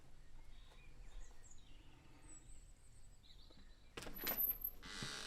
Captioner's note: birds continuing to chirp; door opening